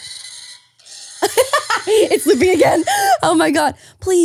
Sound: laughing

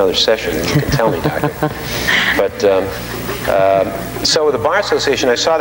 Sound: laughing

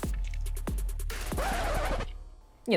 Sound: scratch

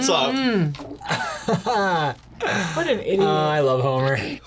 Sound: laughs

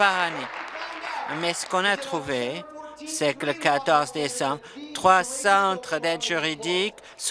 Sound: applause

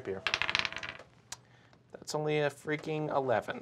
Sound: die clacks

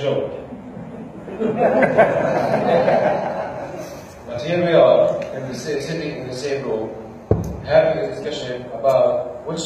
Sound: laughter

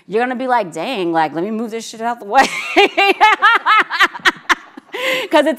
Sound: laughs

